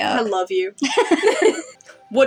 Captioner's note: both Laugh